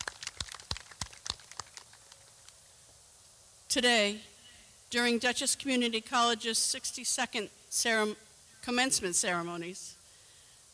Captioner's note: clapping